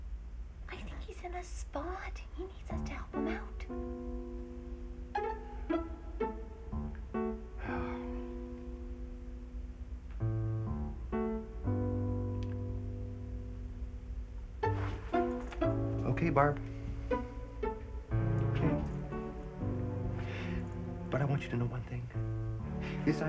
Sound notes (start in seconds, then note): 3.6 playful music; 7.6 Reg sighs